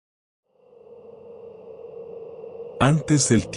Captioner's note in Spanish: Sonido de viento